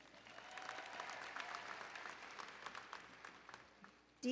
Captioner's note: applause and Cheering